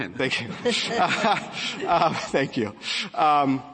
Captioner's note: laughter